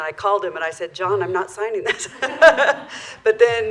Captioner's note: laughter